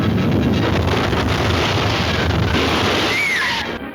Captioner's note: screaming